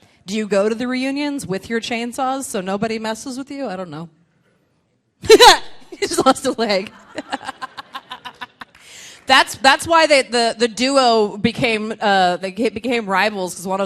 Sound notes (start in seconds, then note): 6.8 laughs; 7.5 laughing